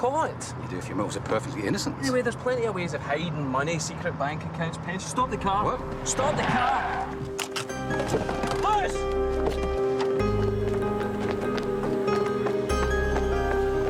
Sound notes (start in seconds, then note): 7.4 tires screech; 10.3 tense music